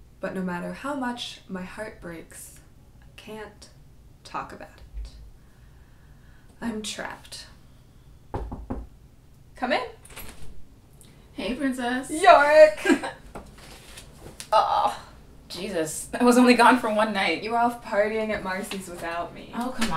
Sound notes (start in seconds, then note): 8.3 knock on door; 12.5 laughs